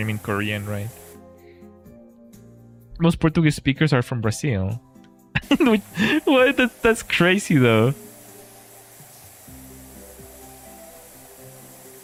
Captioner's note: laughter